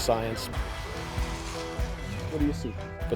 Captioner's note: shovel slicing sand